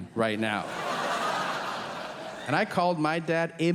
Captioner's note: audience laughing